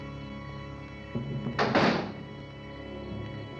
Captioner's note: door slamming